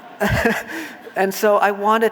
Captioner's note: audience laughing